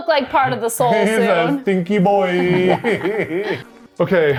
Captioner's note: laughs